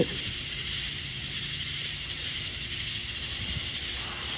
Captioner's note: insects chirping